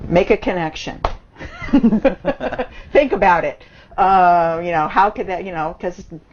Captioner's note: both laughs